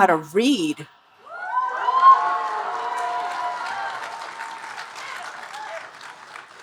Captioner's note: audience cheering and applauding